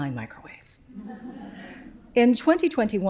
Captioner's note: laughter